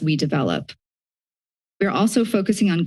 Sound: silence

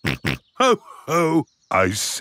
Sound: snorts

